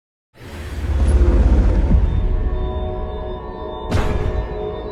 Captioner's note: heavy safe door slamming